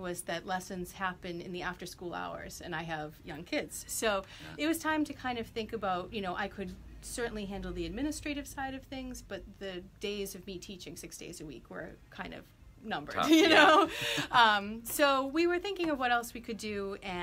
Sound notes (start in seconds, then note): 13.3 laughs